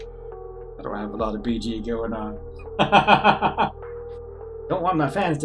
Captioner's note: laughs